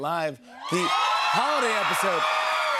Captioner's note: audience cheers